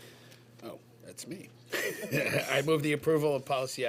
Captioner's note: laughs